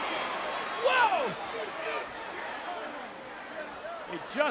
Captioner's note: crowd chattering